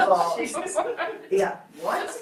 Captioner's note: group laughs